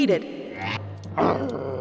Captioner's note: growling